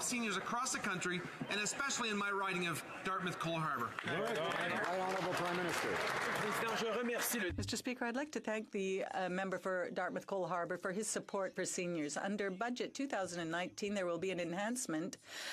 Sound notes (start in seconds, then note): 10.8 speaking French